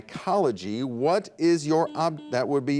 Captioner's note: buzzer dings